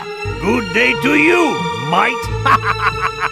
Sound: laugh

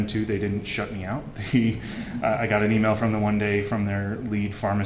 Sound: laughter

